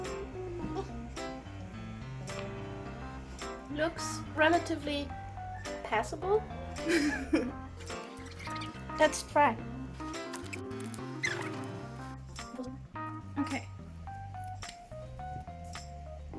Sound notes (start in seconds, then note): 6.6 laughs